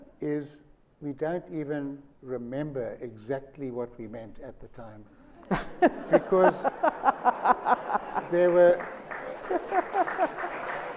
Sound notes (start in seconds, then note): 5.4 laughter and applause